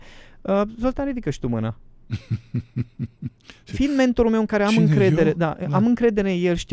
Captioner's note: laughter